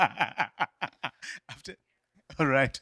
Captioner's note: laughter